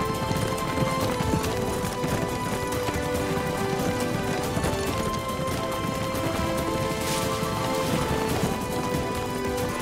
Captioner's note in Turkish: Müzik devam ediyor; At nalı sesi